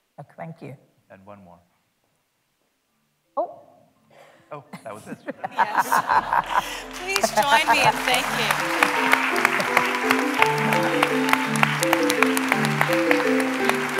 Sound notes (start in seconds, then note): 4.6 laughter; 8.3 applause